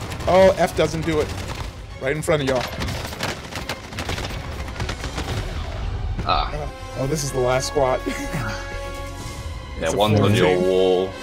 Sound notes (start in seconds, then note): 3.4 gunshots